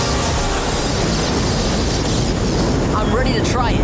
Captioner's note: thundering